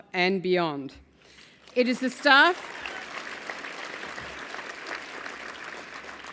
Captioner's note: applause